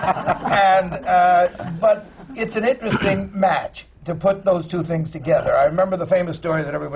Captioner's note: laughter